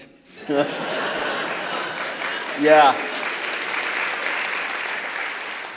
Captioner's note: laughter; applause